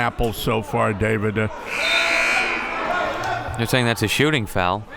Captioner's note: buzzer blares